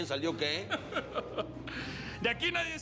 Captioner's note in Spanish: risa de el teca